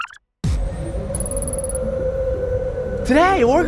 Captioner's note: wind howls